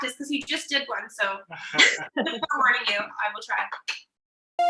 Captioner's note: laughter